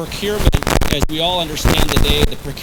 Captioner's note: static feedback